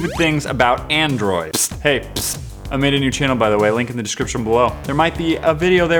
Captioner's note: psst